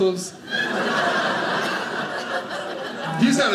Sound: audience laughing

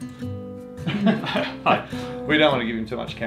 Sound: laughter

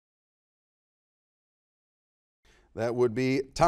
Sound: none

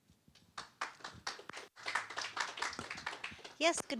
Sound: applauding

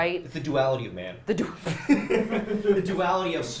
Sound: laughing

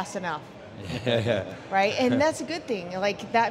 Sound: men laugh

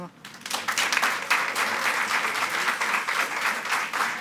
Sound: audience clapping

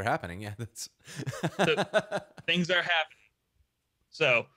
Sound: laughing

